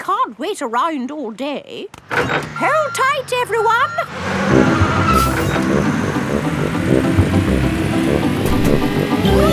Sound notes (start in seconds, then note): 4.0 bus beeping